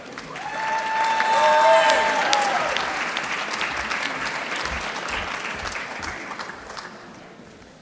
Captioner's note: applause